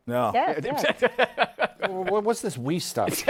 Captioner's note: laughs